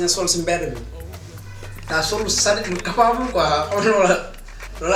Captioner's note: laugh